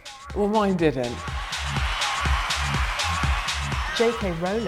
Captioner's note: cheering